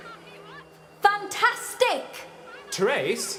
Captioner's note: shouting